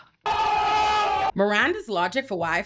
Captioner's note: screaming